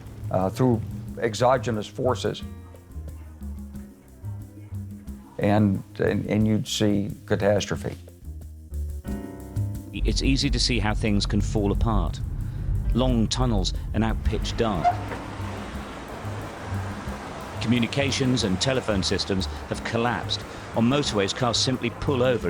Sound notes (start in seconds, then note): 15.1 cars passing